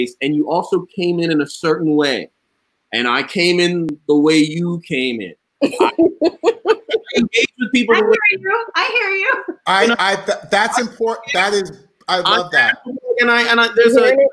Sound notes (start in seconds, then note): 5.6 laughing